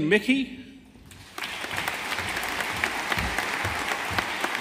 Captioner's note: audience applauding